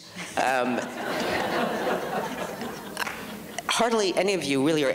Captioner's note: audience laughs